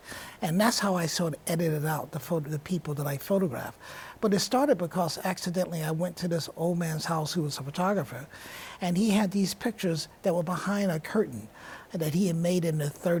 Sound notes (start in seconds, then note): none